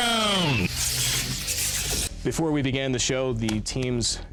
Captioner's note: dramatic voice